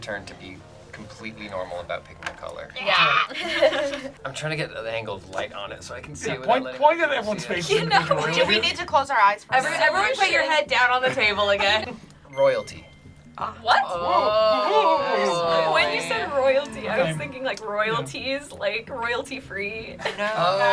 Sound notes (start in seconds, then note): 3.0 group laughs; 12.3 word twinkles; 13.7 group chattering